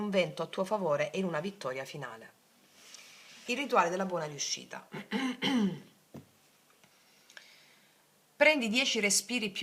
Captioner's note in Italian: schiarire la voce; tosse